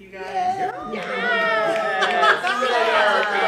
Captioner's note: campers cherring